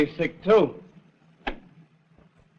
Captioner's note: door clicks